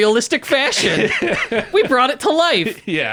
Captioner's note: laughing